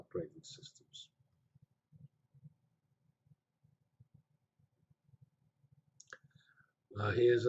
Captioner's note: pause